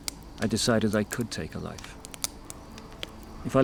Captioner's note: none